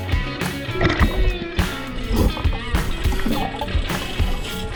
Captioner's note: burbling water